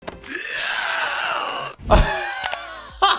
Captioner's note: Karl screaming; laughs